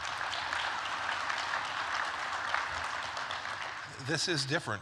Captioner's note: applause